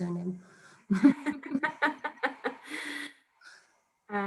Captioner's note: all laughing